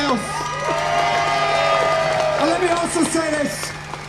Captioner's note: cheers